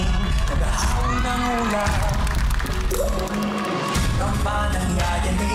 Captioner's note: audience cheering, applauding